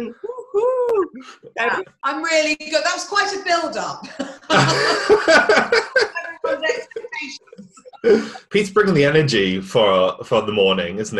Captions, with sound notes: Woo hoo! - Wow! I'm really good, that was quite a build up. (all laughing) Everyone lacks the patience. - Pete's bringing the energy for the morning, isn't he?